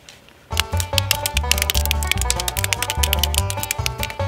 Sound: wood cracking

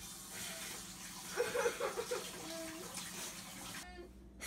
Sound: sobbing

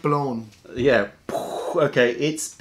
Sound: explosion sound

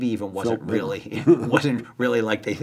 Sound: laughing

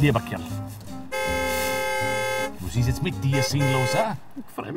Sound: honking

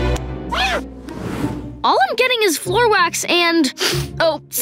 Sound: sniffing

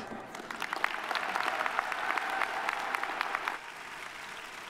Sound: audience applauding

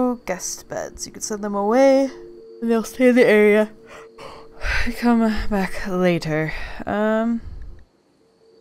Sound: yawns

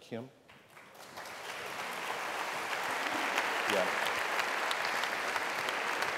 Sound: applause

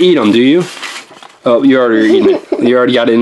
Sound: assistant laughs

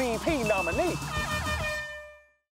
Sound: honking

